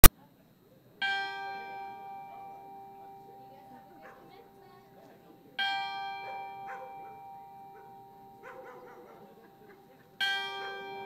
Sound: bell rings three times

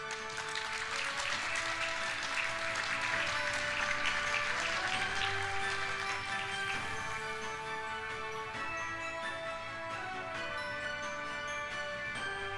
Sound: applause

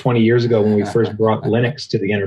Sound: laughing

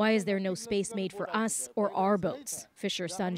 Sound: speaking alternate language

